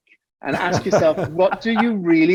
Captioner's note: both laughing